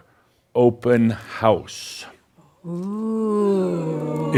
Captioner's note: audience says “Ooh!”